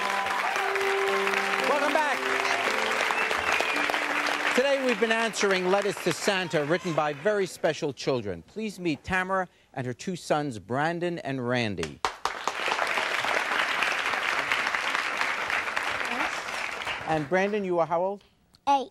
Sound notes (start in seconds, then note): 12.0 audience applauding